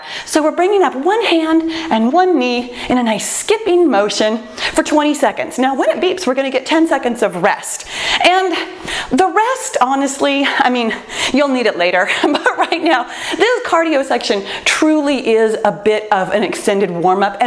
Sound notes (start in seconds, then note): 12.0 laughs